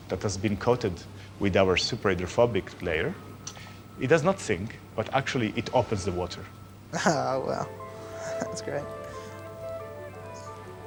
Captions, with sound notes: that has been coated with our superhydrophobic layer, it does not sink but actually it opens the water. Ah, wow. (CHUCKLES) That's great.